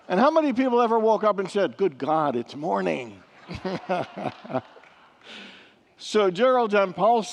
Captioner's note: laughs with congregants